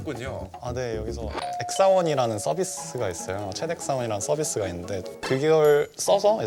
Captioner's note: ding-dong